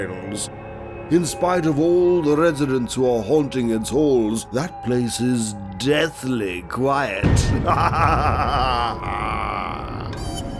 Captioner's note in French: rire diabolique